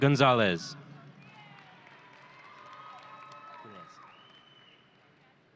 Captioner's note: audience cheering